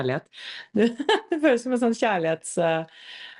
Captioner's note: laughs